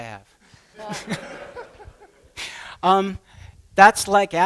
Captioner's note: laughter